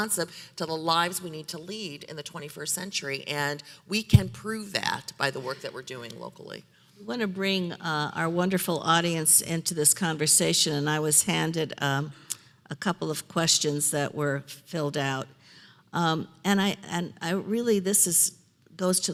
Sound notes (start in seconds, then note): none